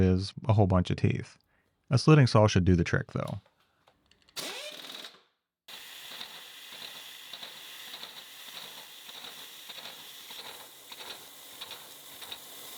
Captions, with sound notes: is a whole bunch of teeth. A slitting saw should do the trick, though. (slitting saw whirring)